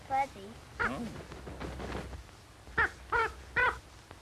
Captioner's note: cawing